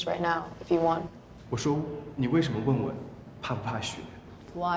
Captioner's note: speaking in Mandarin